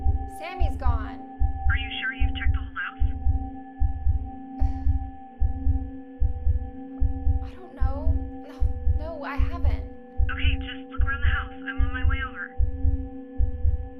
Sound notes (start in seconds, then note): 4.8 heartbeat thumping; 4.8 soft tense music